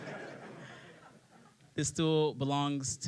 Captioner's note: laughter